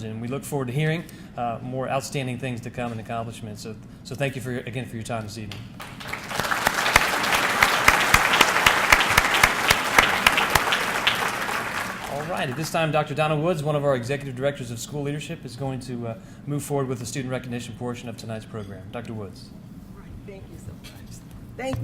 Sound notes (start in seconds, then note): 5.7 audience clapping